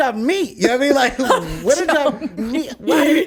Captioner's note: laughs